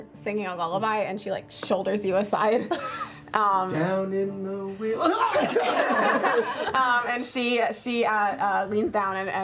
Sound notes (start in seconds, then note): 3.2 singing; 5.1 yells